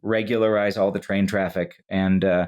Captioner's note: none